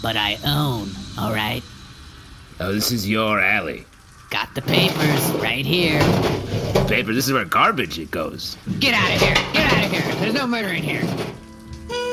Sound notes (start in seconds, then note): 4.6 pulling open some kind of rusty door; 8.3 clattering garbage around